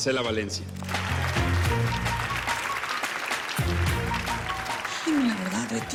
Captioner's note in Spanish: Aplausos